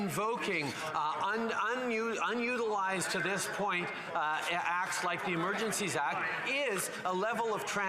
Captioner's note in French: voix de l'interprète